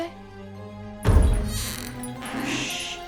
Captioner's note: heavy footsteps